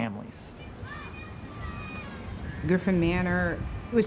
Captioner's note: children calling